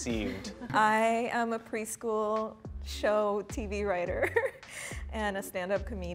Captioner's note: laughs